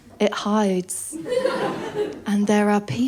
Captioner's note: laughter